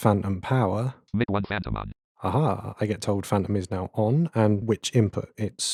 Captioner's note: automated voice